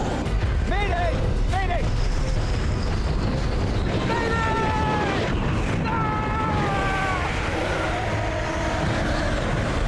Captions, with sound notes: May day! May day! May day! [screams]